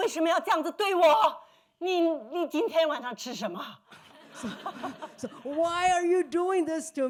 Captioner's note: speaking Mandarin